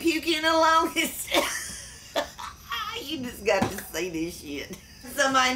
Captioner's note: laughs